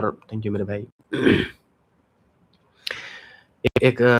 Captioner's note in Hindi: गला साफ़ करने की आवाज़